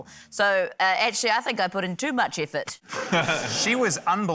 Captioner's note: laughter